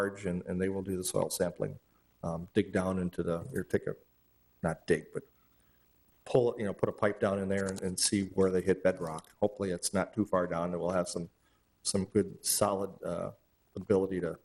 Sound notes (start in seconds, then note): none